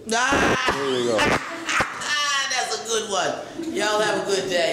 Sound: laughs

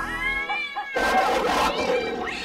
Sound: dog barks

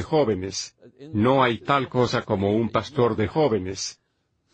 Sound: laughs

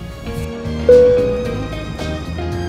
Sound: upbeat music; dinging

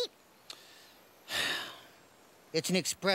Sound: sighs

